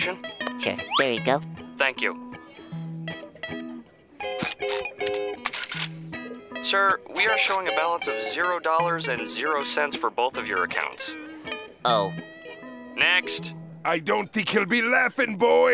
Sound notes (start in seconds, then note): none